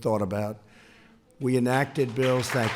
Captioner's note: applause